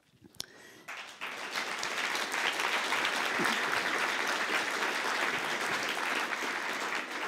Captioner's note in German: Applaus